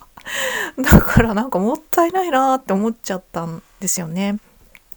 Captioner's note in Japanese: 息をのむ音; 笑い